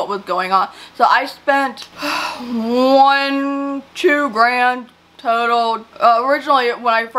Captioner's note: sighs